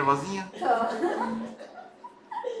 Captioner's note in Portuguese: risos